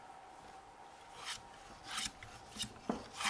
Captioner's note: quiet planing sounds